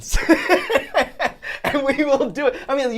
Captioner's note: laughing